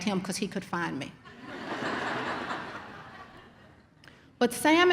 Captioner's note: audience laughs